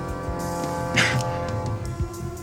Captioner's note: chuckles